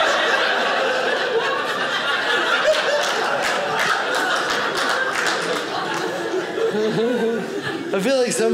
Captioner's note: audience laughing